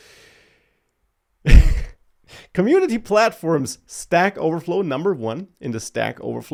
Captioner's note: laughs